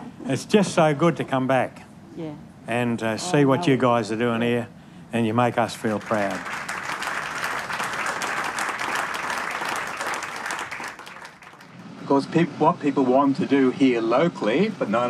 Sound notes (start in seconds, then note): 5.5 applause